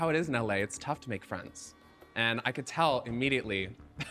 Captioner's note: chuckling